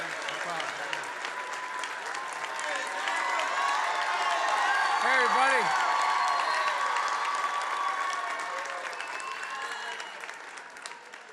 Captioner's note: applause